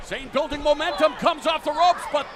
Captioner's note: crowd cheering